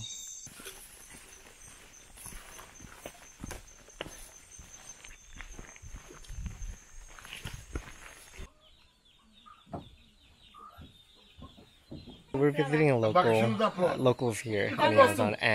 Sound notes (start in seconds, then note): 0.4 sounds of hiking through leaves; 8.3 sounds of birds